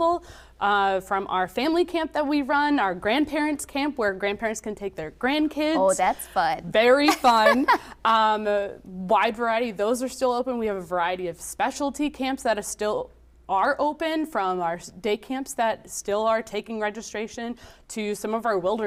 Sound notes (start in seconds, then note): 7.0 laughing